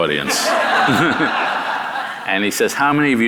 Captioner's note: audience laughing